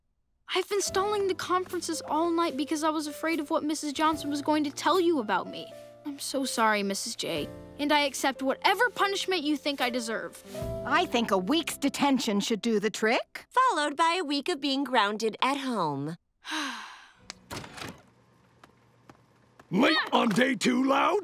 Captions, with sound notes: I've been stalling the conferences all night because I was afraid of what Mrs Johnson was going to tell you about me. I'm so sorry, Mrs J. And I accept whatever punishment you think I deserve. I think a week's detention should do the trick. Followed by a week of being grounded at home. [sighs] Late on day two, Loud?